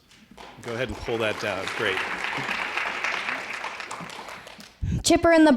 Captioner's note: applause